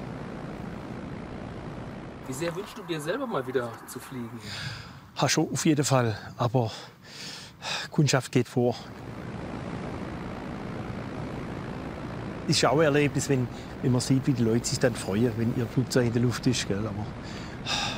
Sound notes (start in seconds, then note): 9.1 steady engine noise